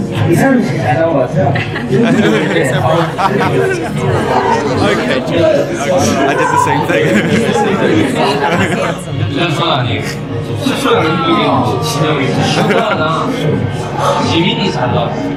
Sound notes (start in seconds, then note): 4.2 giggles; 6.6 laughs; 8.7 laughs